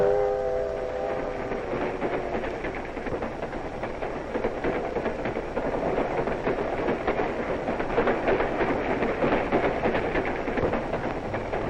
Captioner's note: train noises